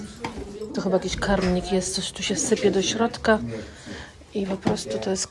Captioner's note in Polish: parsknięcie